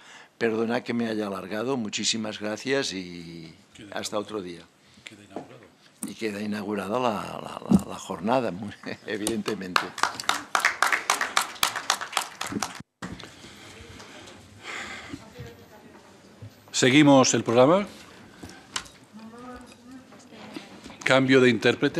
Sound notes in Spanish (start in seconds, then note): 14.1 Aplausos